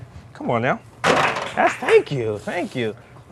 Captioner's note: people applauding